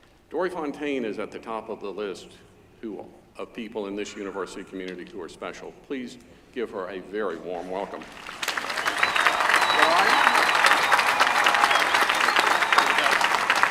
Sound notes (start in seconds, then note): 8.0 applause